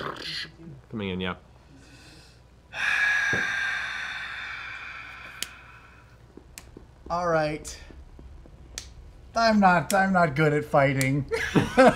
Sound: sighs

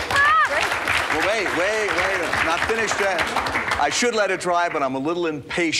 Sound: applause

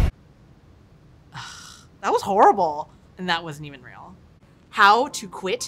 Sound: sighs

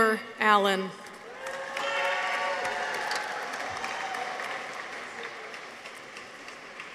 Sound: people cheer; audience applauds

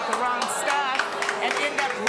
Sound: audience booing

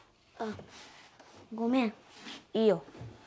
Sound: none

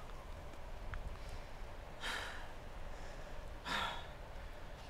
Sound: heavy breathing

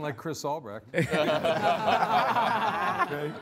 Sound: all laughing

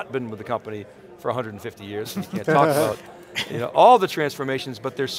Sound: laughs

